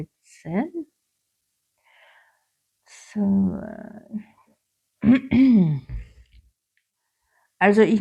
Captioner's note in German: räuspern